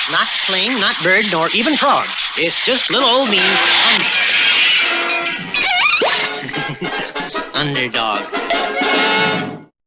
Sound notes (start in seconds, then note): 4.1 crash!; 5.8 laughs!